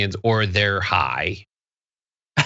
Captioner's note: laugh